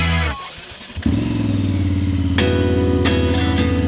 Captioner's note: motorcycle Starting Sound